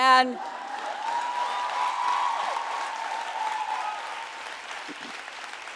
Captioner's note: audience applauding and cheering